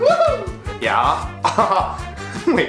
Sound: scoffs

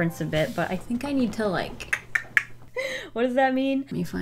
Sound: clicks tongue

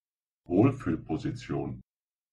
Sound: fast Pronunciation

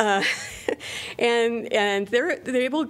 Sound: laughter

